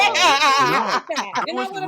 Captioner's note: laughter